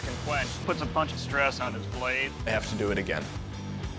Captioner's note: none